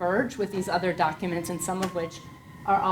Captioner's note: siren wailing